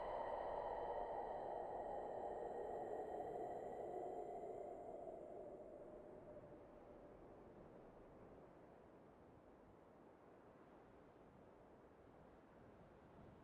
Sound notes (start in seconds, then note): 0.0 wind blowing